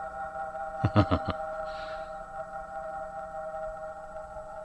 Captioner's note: laughing